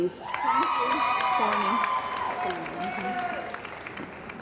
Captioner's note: cheering & Applause